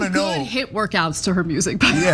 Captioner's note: laugh